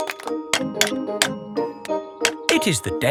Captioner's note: clanking